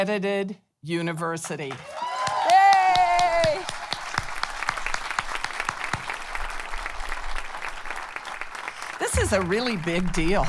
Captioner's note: applause